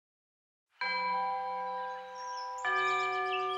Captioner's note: bell chimes